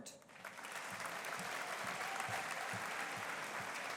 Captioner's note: audience applauding